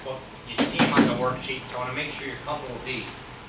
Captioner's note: speaks softly